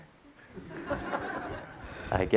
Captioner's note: audience laughter